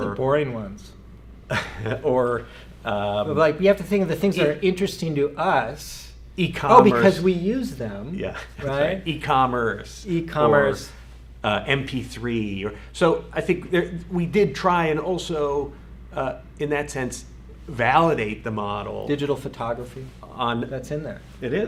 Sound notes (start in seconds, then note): 1.5 laughs